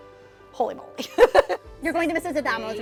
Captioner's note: laughter